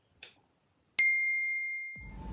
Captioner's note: ping